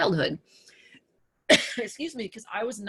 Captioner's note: coughs